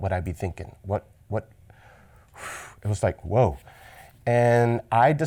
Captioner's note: sighs